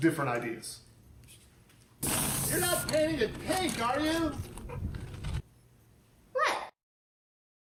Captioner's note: spray can sound